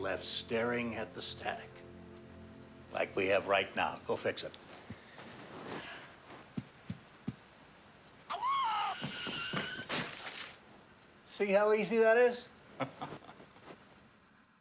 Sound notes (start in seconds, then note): 8.8 actor shouting